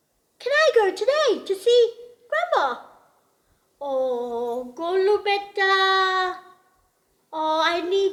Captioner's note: speaks in gujarati